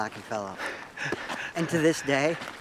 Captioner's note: laughs